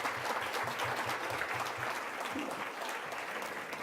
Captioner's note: applause